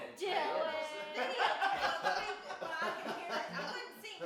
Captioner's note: family chatters and laughs